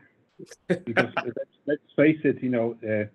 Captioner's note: laughing